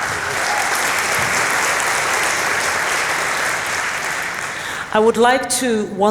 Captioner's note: applause